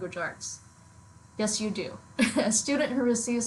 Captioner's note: laughs